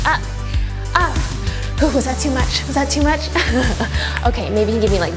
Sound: chuckles

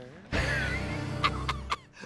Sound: laughing

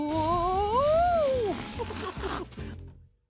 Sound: laughs

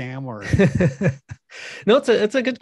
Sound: laughs

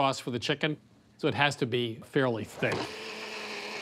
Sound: blender whirring

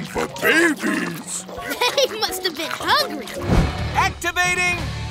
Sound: munching

